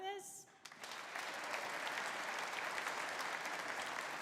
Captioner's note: audience applauding